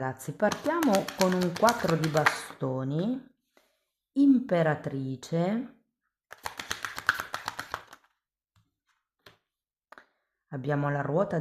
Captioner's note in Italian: Applauso